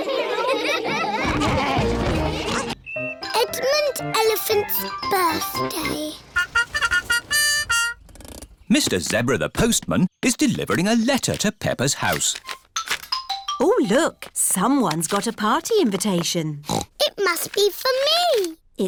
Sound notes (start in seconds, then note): 0.0 all giggling; 6.3 horn tooting; 16.6 snorts